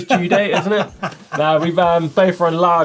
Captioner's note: laughs